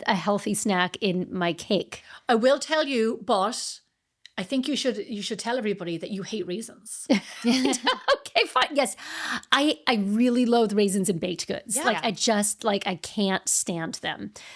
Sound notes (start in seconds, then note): 7.4 laughing